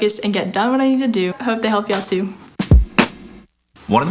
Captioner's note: clapping; drumming